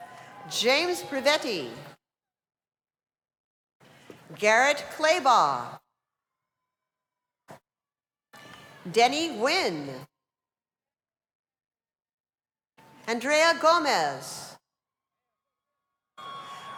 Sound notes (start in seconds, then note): 6.7 cheers and applause